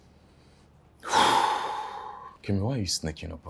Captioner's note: exhales